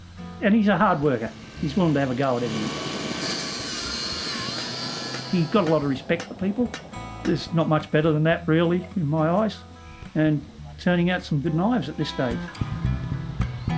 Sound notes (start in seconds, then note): 3.5 metallic grinding; 6.4 hammering